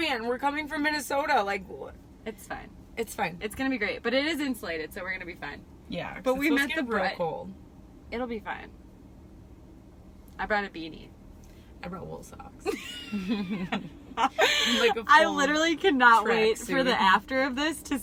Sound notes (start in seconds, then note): 12.7 laughing